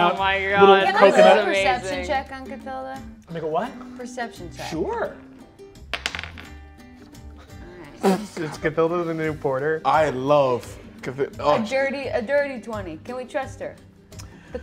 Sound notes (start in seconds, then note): 5.9 die taps table